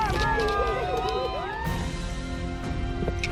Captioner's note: cheering